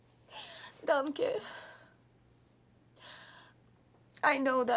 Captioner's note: Lenore speaks foreign language